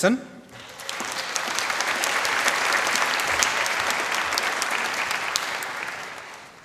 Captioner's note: applause